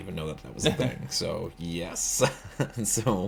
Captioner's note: laughs